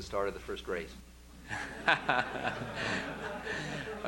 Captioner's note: laughter